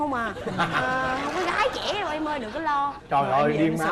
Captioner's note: laughing